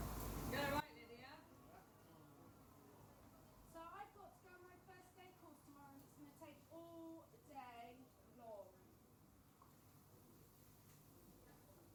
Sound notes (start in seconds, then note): 1.1 very quiet voice talking